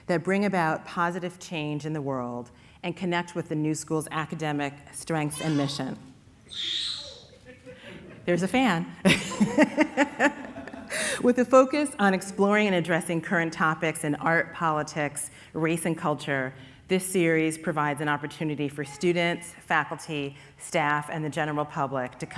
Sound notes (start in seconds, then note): 6.4 baby screaming; 7.1 people laughing; 10.0 laughing